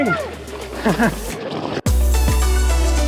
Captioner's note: laughs; upbeat music